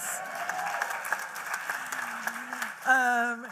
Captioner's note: applause